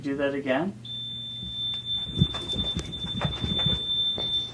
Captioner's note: REM Pod ringing